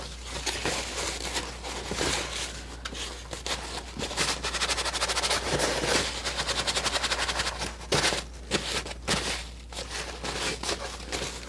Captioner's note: plastic crinkling